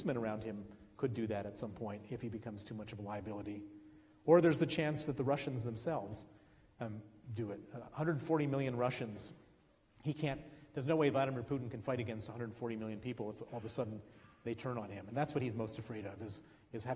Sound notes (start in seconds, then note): none